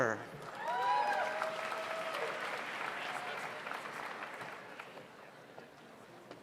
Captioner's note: audience applauds; audience cheers